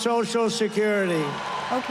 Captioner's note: cheering